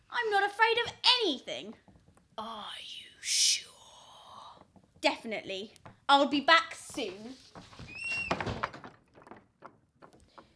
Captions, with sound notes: I'm not afraid of anything! Are you sure? Definitely. I'll be back soon. [door closes]